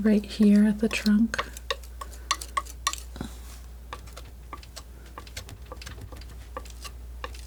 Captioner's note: scratching